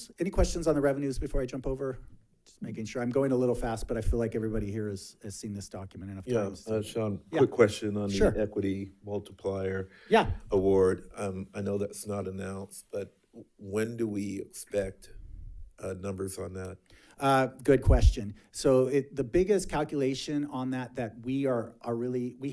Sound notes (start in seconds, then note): none